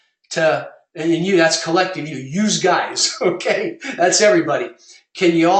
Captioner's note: laugh